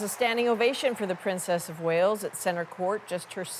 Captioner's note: applause